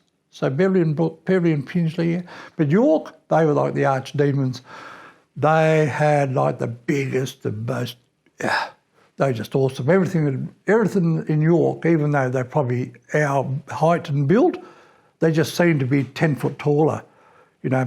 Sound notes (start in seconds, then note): 8.4 exhales